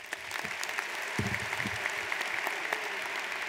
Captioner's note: applauding